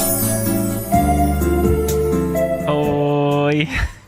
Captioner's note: bell; laughter